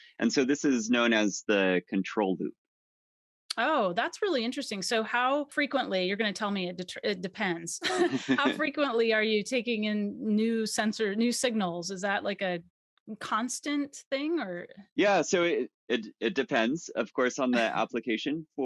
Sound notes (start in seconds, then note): 7.8 both laughs; 17.5 chuckles